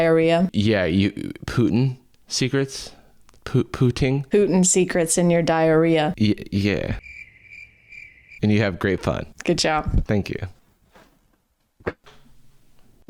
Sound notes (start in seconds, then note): 6.8 crickets chirping